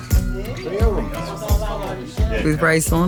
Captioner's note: group chattering; upbeat music